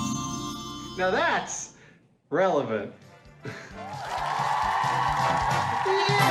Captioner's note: applause